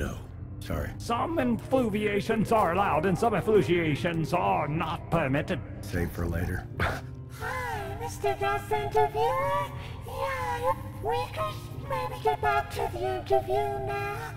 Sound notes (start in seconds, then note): 6.8 chuckles